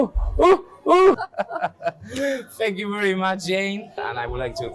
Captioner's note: laughs